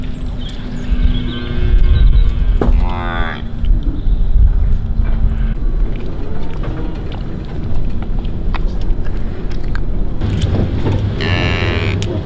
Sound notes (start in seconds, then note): 0.6 calves crying